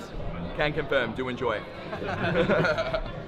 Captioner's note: all laughing